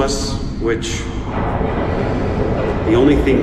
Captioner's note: distant explosions